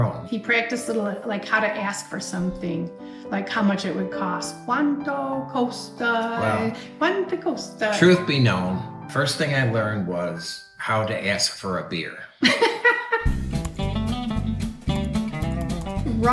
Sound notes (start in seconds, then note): 4.7 speaking italian; 12.4 chuckles